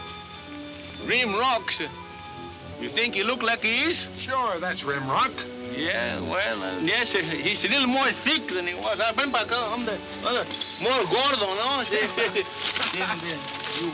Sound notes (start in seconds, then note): 8.4 speaking Spanish; 12.2 chuckling